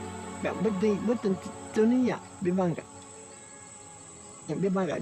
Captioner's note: speaking in foreign language